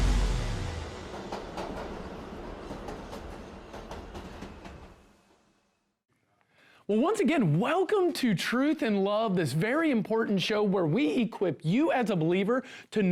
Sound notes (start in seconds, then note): 1.6 train rattling